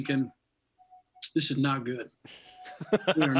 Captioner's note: laughing